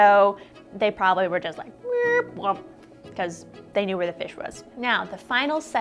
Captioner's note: mrrrrrrrrp